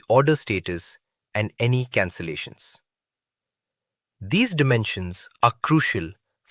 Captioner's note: thoughtful